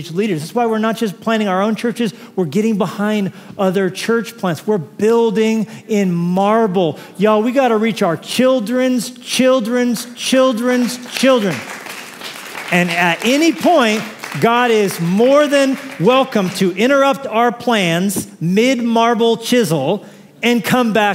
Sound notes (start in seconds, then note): 10.7 applause